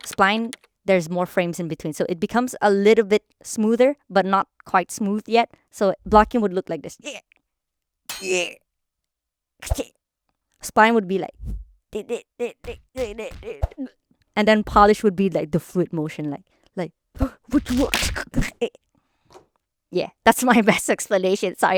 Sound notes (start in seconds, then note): 11.4 straining; 17.5 scuffling